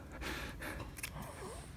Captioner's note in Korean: 싹둑